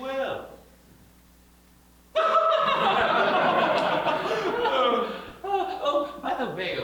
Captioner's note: burst out laughing